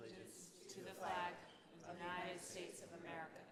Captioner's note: in Unison